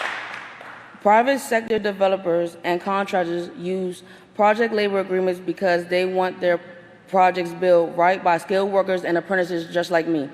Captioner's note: applause